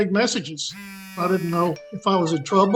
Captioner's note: phone buzzing